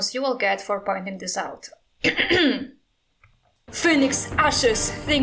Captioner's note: clears throat